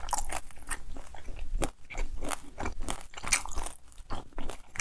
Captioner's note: crunchy